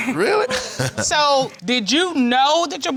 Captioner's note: laughs